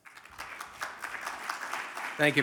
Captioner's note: audience applauding